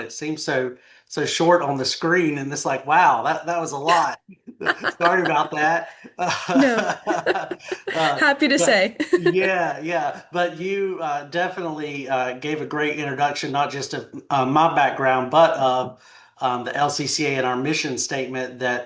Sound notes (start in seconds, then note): 4.6 laughs; 6.0 laugh